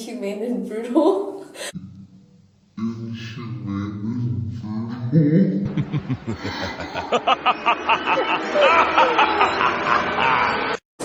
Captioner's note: cackling